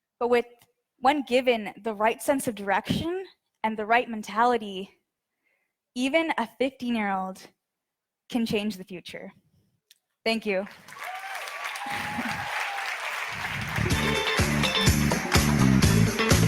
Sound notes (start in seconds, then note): 10.6 audience applauds; 13.3 upbeat music